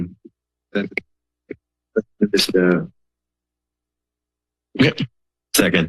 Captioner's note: silence